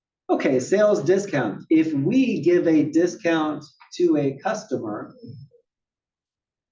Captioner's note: cough